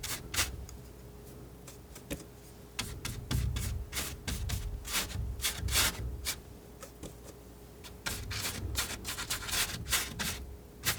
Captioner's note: scratching